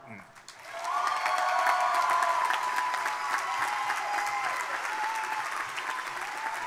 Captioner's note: crowd applauding; crowd cheering